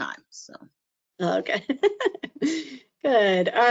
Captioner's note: laughs